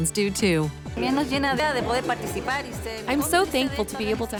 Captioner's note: speaking spanish